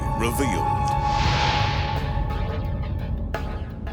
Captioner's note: light beam swishing; upbeat instrumental music